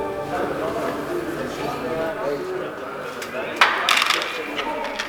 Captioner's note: scientists chatter